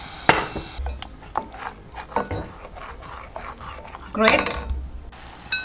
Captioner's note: spoon scraping